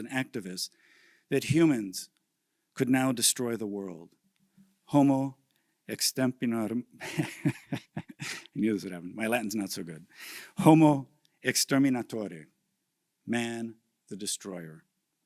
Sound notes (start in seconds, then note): 5.3 speaking in a foreign language; 8.6 laughs; 11.6 speaking in a foreign language